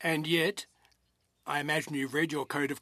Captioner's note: speaking in French